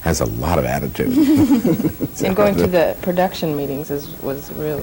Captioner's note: laughter